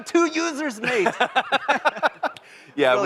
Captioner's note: laughter